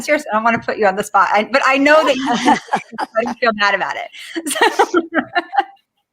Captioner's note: laughter